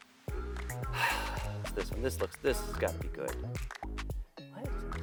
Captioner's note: sighs